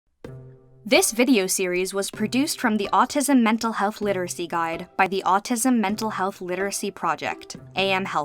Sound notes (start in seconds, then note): 0.6 voice-over